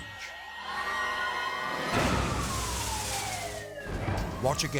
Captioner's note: dramatic music; sirens wailing